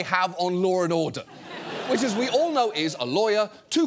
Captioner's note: audience laughs